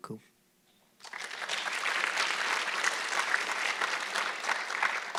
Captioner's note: audience clapping